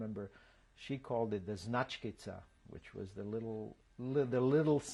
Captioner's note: serbian